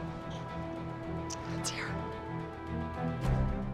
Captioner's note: whispers